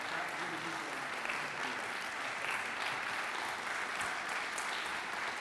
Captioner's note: audience continues applauding